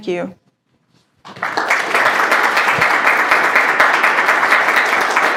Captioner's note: applause